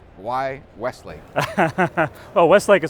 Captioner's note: laughs